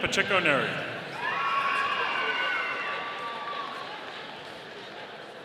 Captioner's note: audience cheering